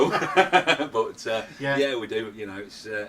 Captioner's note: laughing